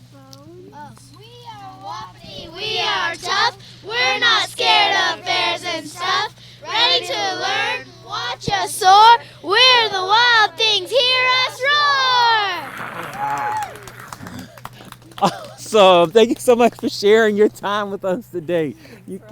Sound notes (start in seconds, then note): 13.6 crowd applauds